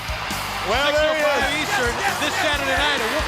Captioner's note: audience cheers